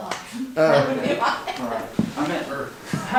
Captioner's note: laughing